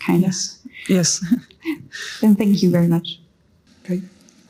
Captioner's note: laughs